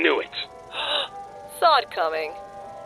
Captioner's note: gasp